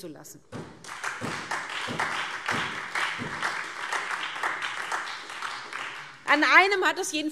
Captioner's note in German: Beifall SPD und Freie Demokraten